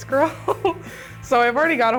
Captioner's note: laughing